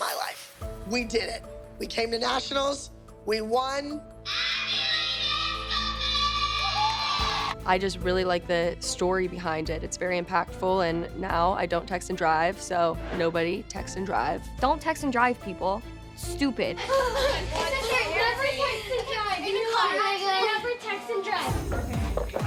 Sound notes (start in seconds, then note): 17.6 children chattering